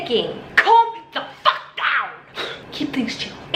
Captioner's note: exhales